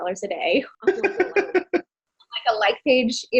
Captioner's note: laughing